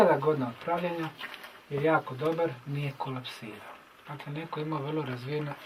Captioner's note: people chatting